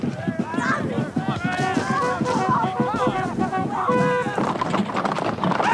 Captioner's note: shouting; horn trumpeting